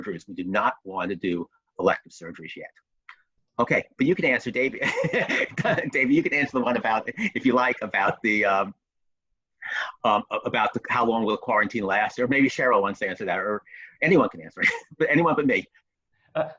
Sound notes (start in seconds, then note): 4.6 chuckles; 14.1 chuckles